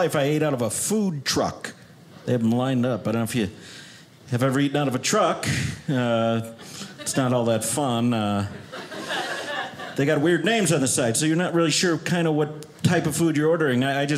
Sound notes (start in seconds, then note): 8.4 audience laughing